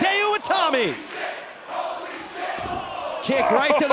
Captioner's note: fans chanting